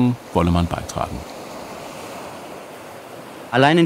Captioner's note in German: Meeresrauschen